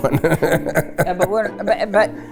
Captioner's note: laughing